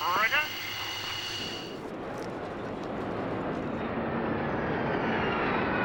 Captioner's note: plane engine accelerating